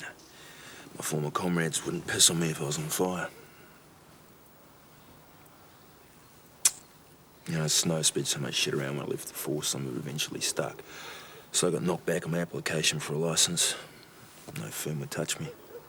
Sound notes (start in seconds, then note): none